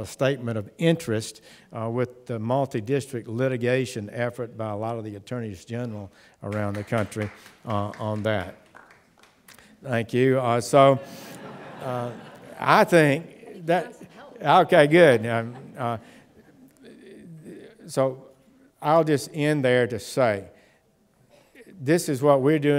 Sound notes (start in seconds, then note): 8.4 applause; 10.8 laughter